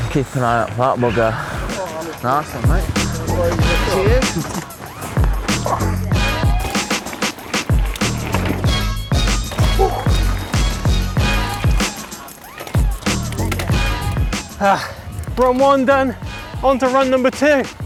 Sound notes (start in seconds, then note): 2.8 bikers chatting; 6.6 pop music; 15.2 panting